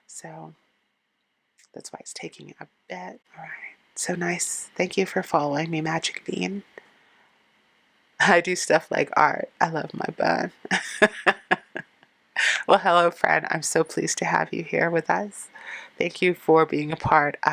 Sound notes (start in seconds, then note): 10.7 laughing